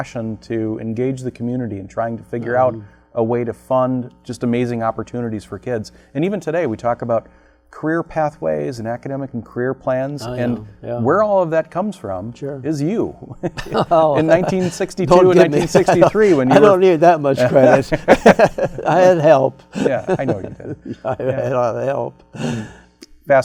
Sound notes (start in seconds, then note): 13.4 laughs